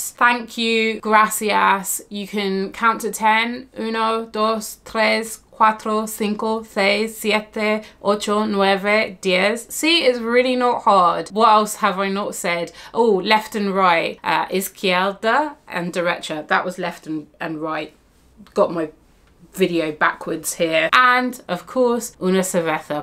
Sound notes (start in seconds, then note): 3.8 speaks in foreign language; 14.0 speaks in foreign language; 21.5 speaks in foreign language